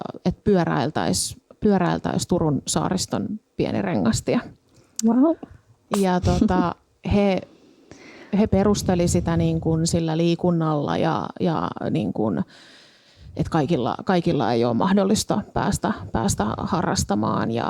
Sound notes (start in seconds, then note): 6.0 laughs